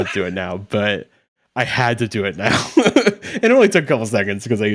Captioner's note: chuckles